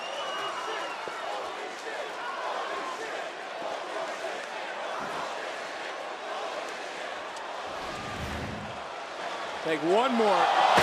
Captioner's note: crowd chants "holy --"